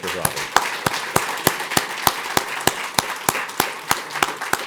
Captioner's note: applause